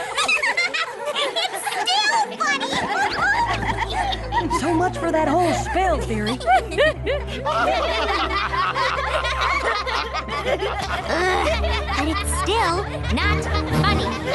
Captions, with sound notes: [giggling] It's still funny! So much for that whole spell theory. [laughter continues] Ugh! It's still not funny!